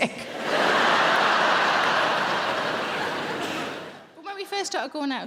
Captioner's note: audience laughing